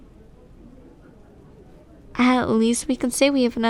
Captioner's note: none